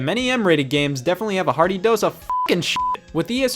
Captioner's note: beep